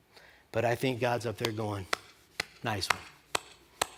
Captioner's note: applause